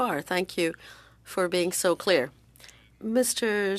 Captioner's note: speaking French